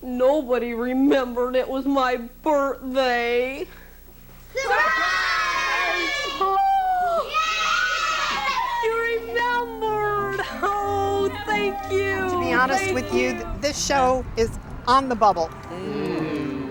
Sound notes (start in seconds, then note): 6.6 high pitched response; 15.5 everyone moans